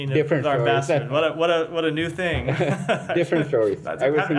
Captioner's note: laughter